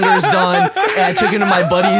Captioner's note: laugh